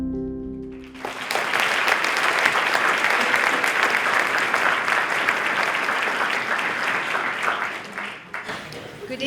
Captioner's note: applause